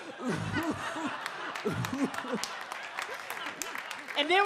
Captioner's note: audience laughs